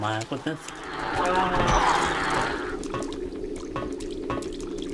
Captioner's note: screaming